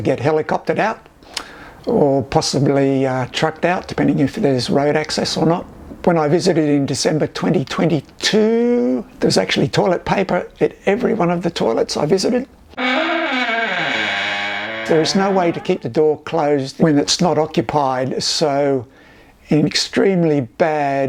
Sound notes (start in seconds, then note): 12.8 squeaky door opens